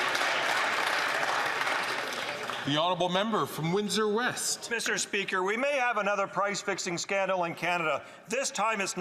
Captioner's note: some Applause